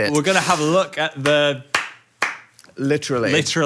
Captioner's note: Phil claps